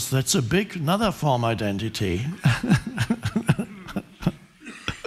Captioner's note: chuckling